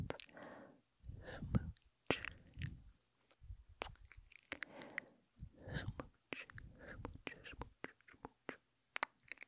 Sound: smooch

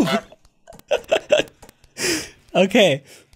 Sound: laughing

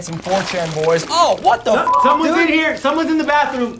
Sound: beep

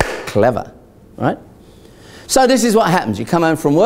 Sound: clap

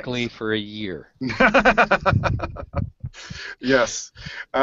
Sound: laughs

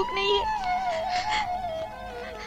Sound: sobbing

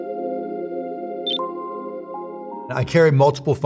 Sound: soft music; beeping

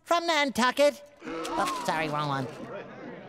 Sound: crowd gasps

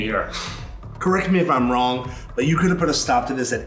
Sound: sighs

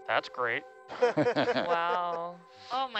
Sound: laughing

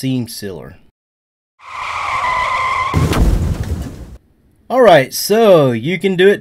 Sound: car brakes screeching

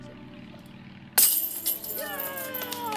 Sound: metal clanking; cheering and clapping

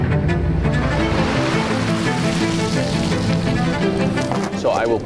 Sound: water splashing

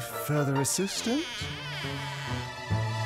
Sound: door creaking

